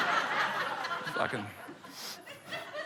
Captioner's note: laughter